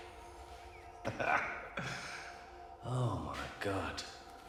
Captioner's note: Danny laughs